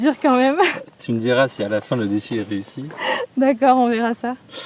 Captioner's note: laughs